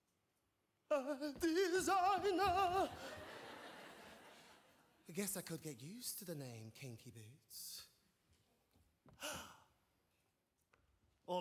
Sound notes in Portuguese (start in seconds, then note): 2.3 audience laughing; 9.2 gasps